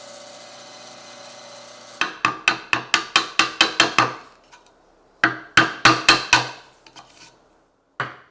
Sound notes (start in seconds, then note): 2.0 hammer tapping